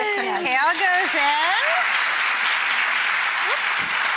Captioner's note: audience applause